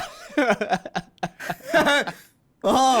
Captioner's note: laughing